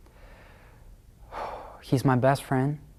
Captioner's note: sighs